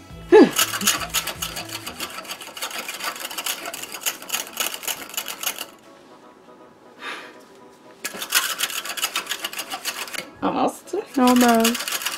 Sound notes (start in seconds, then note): 0.4 exhausted exhale; 7.0 exhausted exhale